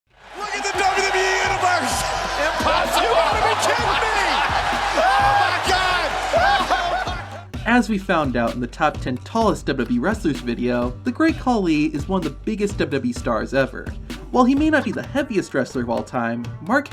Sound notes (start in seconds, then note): 4.4 crowd cheering